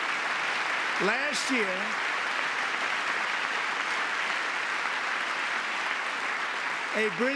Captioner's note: applause